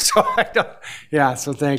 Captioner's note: laughs